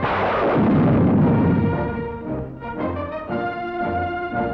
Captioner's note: loud explosion